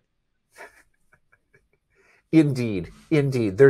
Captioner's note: laughs